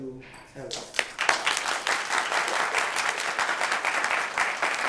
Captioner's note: applause